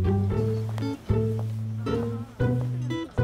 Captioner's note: Footsteps